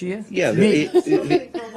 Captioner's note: laughter